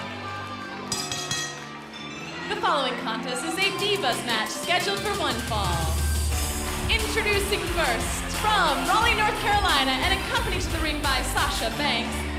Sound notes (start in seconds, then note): 0.0 crowd cheering; 0.9 bell ringing